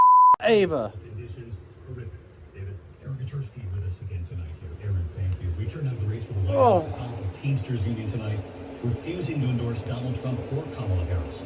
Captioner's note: "ABC World News Tonight with David Muir" plays in background